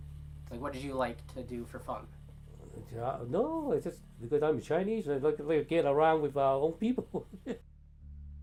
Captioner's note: laughing